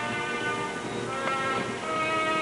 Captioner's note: kiss